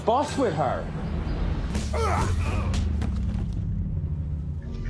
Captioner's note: men grunting